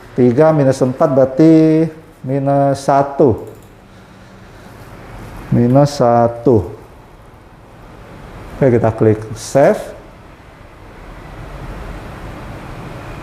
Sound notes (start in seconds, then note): 3.3 keyboard sound; 3.4 clicking sound